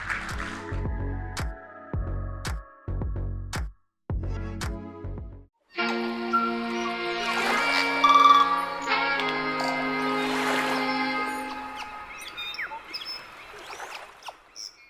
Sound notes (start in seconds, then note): 0.1 upbeat music; 5.8 groovy music; 6.8 birds chirping; 6.9 water splashing